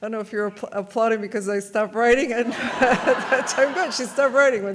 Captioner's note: audience laughs